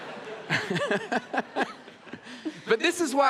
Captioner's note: audience laughs